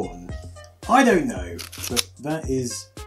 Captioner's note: disk clickky sound